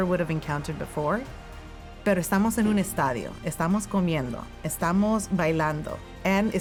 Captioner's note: speaking in foreign language